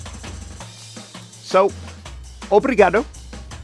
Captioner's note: speaking in foreign language